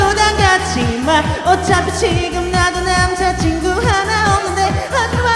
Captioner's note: onion-like voice, layers and layers of them